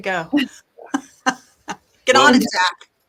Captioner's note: laughs